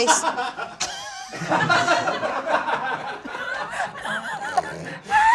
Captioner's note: crew laughing